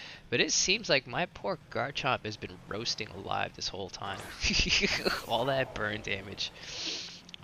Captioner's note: laughs